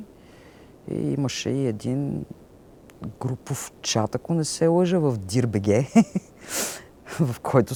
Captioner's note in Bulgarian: смее се